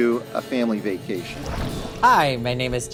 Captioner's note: water splashing